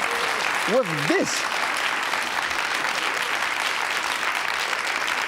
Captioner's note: audience clapping